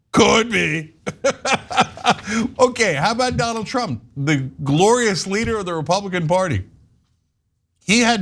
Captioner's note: laugh